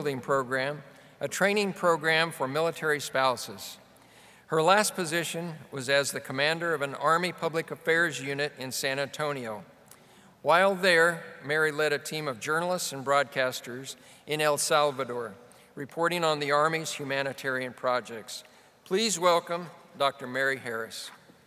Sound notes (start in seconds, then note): none